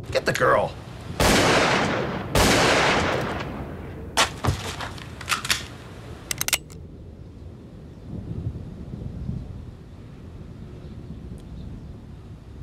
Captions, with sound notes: Get the girl! [multiple gun shots] [gun cocks]